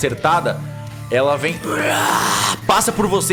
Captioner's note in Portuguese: Grunhido